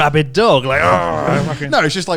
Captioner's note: groaning